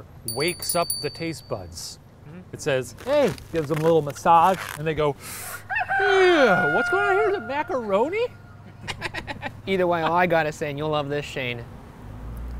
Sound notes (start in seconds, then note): 0.2 bell rings; 5.6 rooster crows